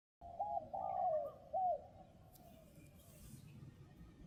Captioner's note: birds chirping